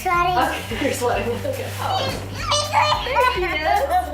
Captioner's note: little girl giggles